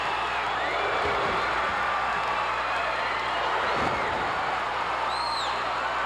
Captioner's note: audience cheering continues